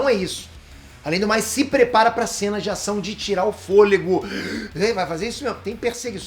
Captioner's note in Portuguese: Peter ofegante